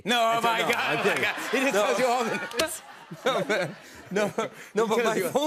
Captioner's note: both laugh